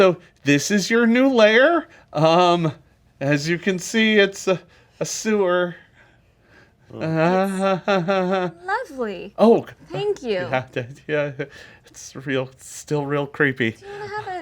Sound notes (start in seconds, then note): 6.9 laughs nervously